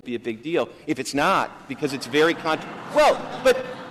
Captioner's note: laughter